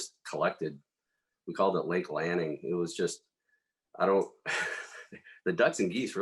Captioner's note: laugh